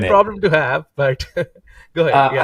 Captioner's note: chuckling